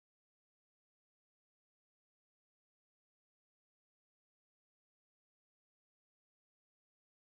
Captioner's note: none